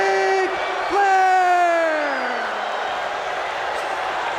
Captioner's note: crowd boos